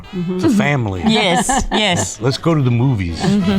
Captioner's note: Rhea laughs; chuckles; instrumental jazz music